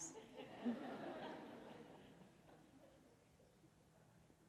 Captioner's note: audience laughs